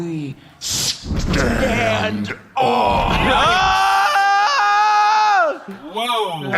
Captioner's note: screaming